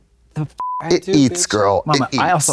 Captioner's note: beep